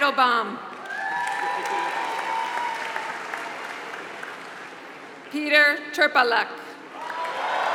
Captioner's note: applause; applause